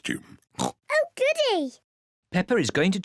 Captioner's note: oinks